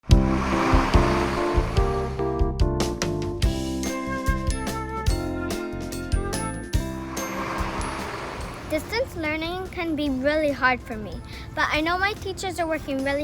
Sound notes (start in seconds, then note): 0.0 bus engine; 0.0 jaunty music